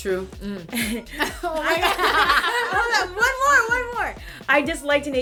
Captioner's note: laughter